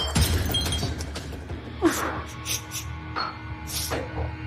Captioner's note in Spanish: Sollozos